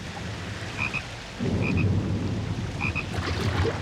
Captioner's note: croaking